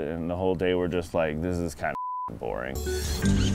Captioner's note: beeps